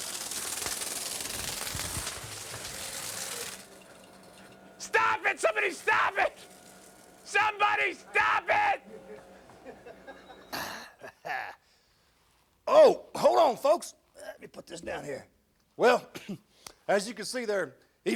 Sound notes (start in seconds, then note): 9.2 crew laughs; 11.0 grunts